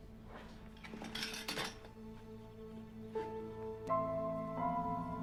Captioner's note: materials clatter; suspenseful music